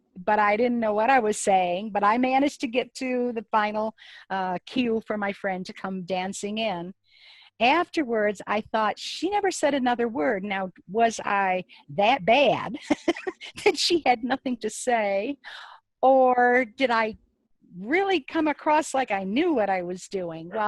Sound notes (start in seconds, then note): 12.8 laughs